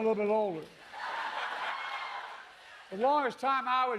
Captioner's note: laughter